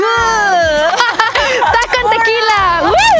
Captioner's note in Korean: 웃음